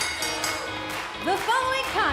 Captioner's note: bell